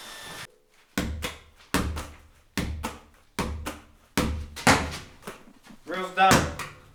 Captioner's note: ball bouncing